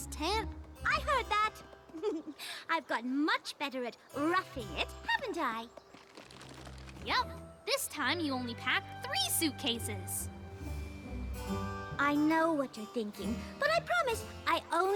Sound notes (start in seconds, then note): 1.8 giggle; 5.7 teeth chattering